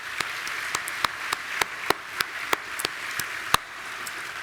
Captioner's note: people clapping